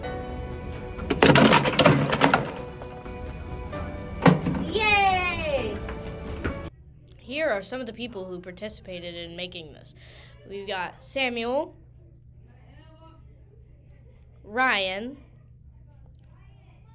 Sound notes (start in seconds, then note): 1.0 water bottles fall in recycle bin; 3.4 another bottle falls in recycle bin